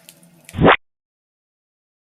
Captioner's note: fire crackling; splat.wav